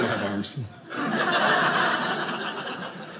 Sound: audience laughing

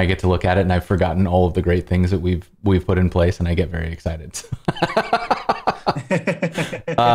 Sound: laughter

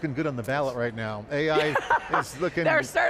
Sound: laughing

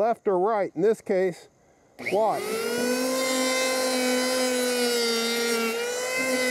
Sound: tool buzzing

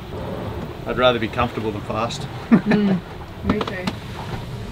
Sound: laughs

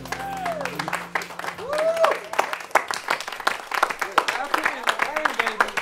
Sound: cheers and applause

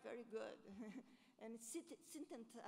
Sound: laughs

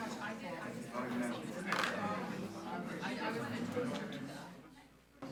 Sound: group chattering

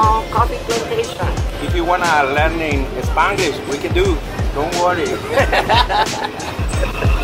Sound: laughter

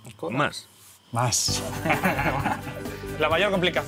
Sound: laughs

